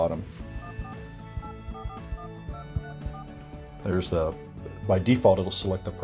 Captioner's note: dial pad beeping